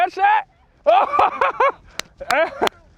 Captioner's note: claps; chuckles